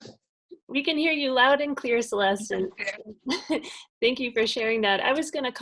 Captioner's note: laughs